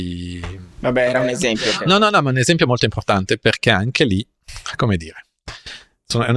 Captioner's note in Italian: risate